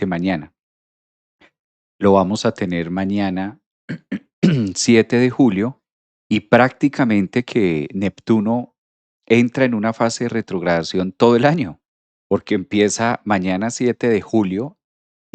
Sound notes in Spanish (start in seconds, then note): 3.9 carraspeo